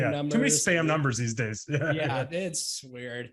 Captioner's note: laughs